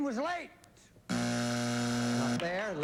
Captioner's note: buzzer